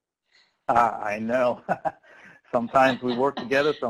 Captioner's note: laughing